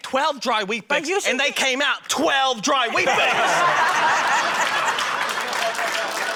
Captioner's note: laughter, applause